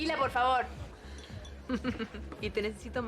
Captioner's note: Tertawa